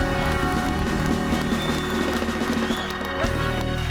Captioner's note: audience cheering and applauding